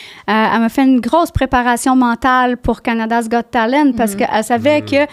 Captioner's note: in french